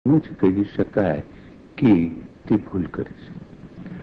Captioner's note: foreign language